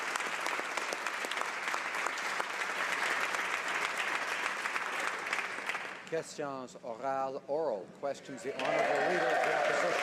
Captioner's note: applause